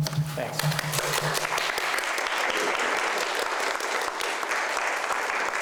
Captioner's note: clapping